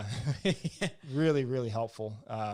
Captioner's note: laughs